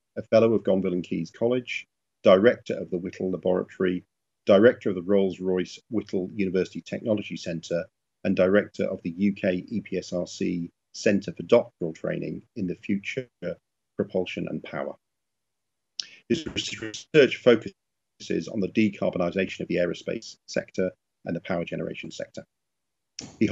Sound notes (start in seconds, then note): 16.1 audio glitches